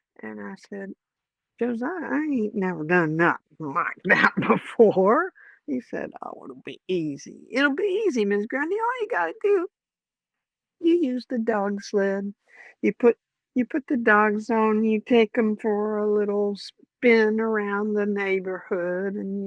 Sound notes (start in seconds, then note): none